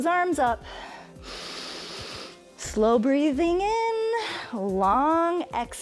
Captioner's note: inhales